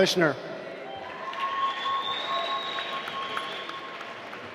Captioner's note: applause